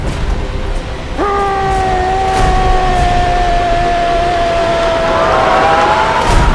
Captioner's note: suspenseful Music; scream; screams